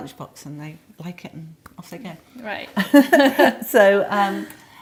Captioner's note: laughs